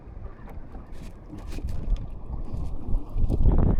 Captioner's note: wind blowing